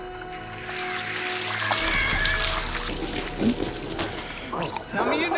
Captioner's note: water splashing; male struggling; gurgles water